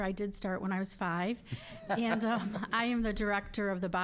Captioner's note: all laughing